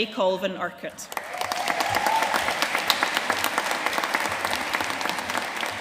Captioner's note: audience cheering and applauding